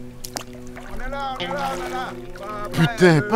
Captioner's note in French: cris lointains